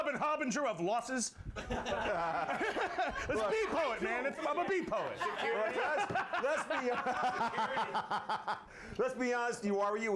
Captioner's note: laughter